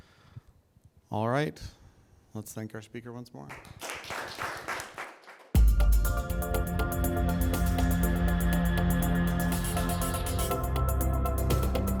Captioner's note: alarm